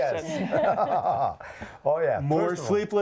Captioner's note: Beth and Dr Pol laugh